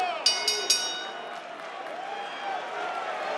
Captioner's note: bell dings